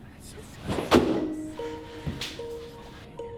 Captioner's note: smack; pensive music